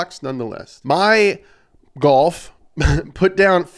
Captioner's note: laughs